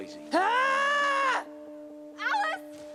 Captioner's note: possum yelling